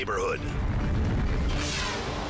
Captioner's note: fire roaring; scene swooshing